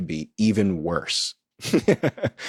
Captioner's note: laughs